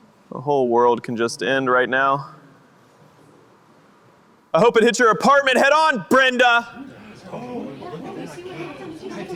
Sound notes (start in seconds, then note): 4.3 yelling